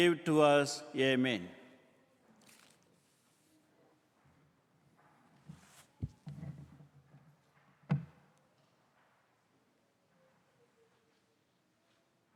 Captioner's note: silence